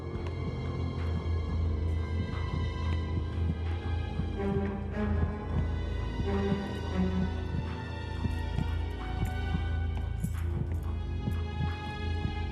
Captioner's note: footsteps